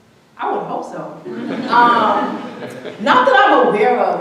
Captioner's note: audience laughing